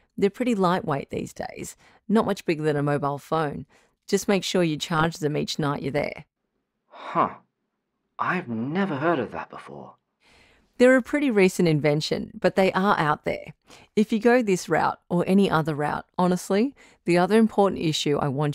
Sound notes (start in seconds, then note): none